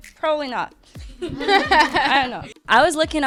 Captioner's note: laughing